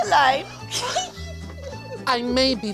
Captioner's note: both laugh